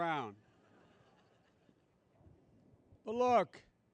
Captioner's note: laughter